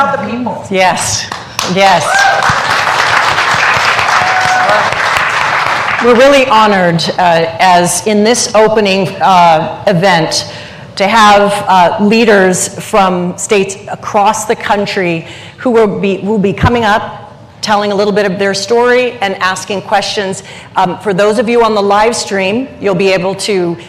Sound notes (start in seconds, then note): 5.9 applause